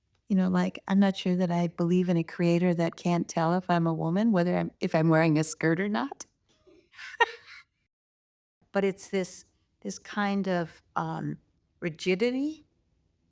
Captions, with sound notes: You know, like, I'm not sure that I believe in a creator that can't tell if I'm a woman if I'm wearing a skirt or not. (laughs) But it's this kind of rigidity that,